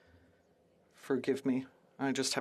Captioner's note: speaking French